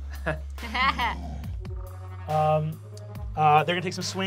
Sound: Fig laughs

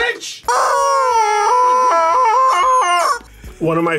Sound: chickens squealing

